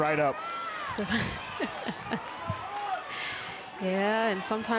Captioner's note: chuckles